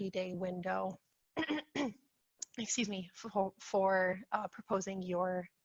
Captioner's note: clears throat